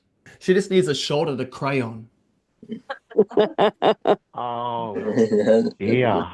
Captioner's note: laughter